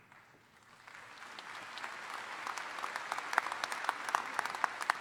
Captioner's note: audience applauding